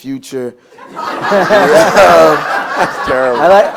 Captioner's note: laughter